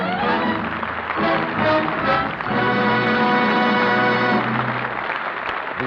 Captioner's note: applause